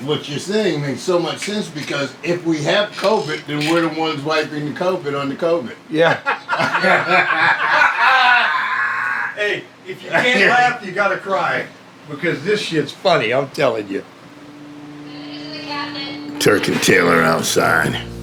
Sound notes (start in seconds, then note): 6.2 laughing